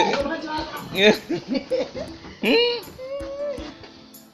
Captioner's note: laughter